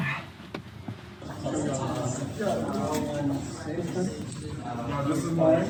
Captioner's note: crowd talking